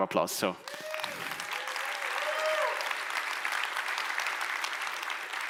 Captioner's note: audience applauds